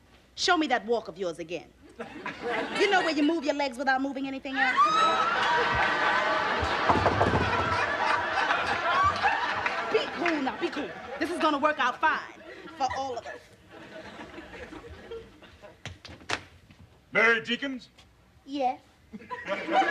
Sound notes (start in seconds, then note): 6.6 knocking on door